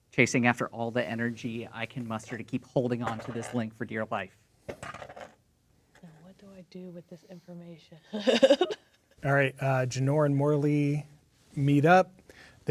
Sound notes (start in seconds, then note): 4.7 dice rolling; 8.1 laughing